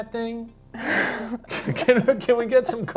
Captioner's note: laughs